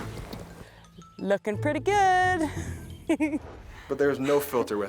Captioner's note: laughs